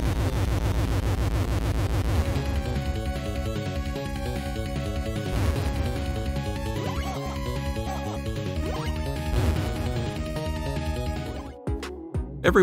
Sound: game sounds

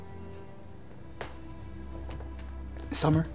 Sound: footsteps from Summer

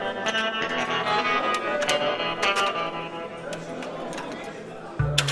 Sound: murmullos

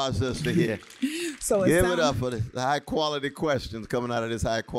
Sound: applause

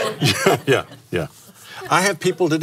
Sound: laughs

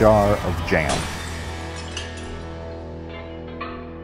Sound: glass breaking

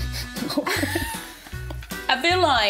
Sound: laughs

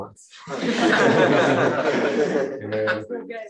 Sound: laughter

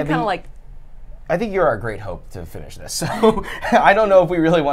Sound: laughs

